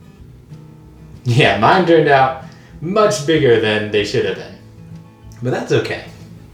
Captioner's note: laughs